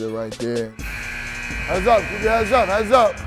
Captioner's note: buzzer beeps